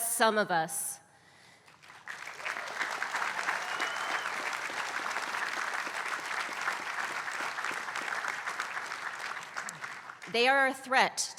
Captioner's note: applause